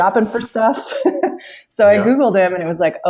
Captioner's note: laughs